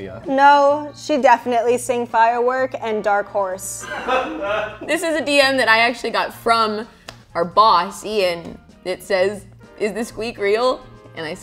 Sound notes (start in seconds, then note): 3.8 cameraman laughs